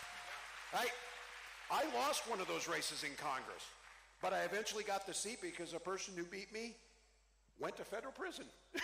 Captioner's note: cheering